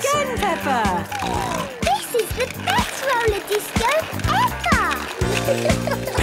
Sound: snorting

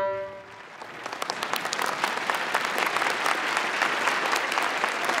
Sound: audience clapping

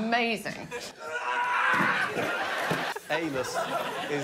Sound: exertion

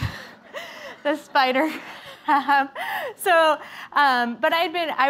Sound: laughter

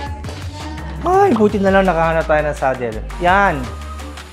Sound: sighs

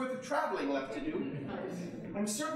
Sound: audience chuckling

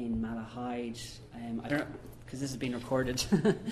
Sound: laughs

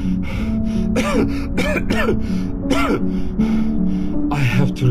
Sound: coughing

